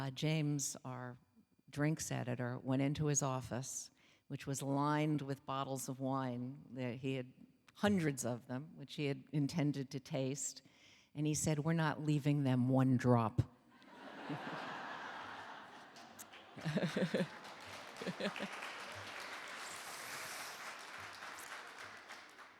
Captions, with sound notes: James, our drinks editor, went into his office, which was lined with bottles of wine that he had hundreds of them which he had intended to taste and he said, "We're not leaving them one drop." (audience laughing) (laughing) (audience applauding)